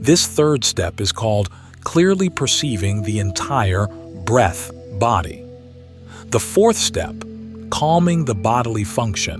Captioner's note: breath